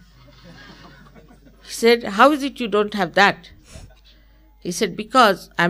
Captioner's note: laughter